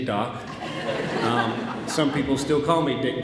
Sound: audience laughs

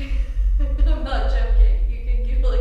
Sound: laughs

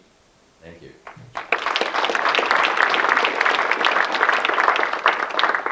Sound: audience clapping

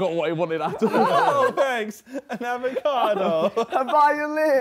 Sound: group chattering

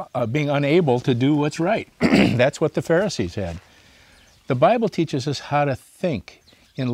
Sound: clears throat

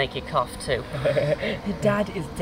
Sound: laughing

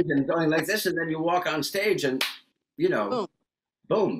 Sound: claps

